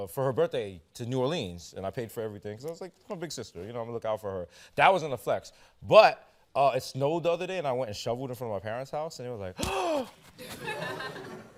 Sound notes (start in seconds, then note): 9.6 gasps; 10.4 laughter